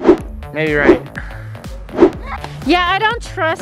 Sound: wooshing sounds

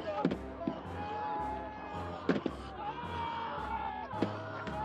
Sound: yelling

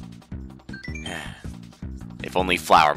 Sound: sigh

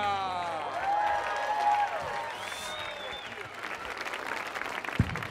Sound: audience applauding

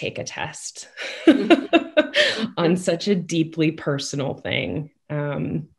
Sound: laughs

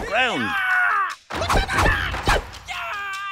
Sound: screams

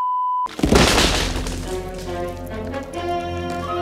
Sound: log Snap

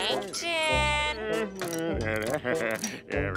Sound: grumbling

